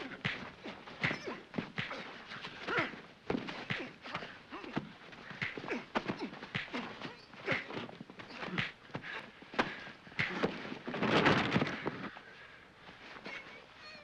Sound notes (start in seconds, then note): 0.0 sounds of scuffling; 10.9 crash; 12.7 sounds of struggling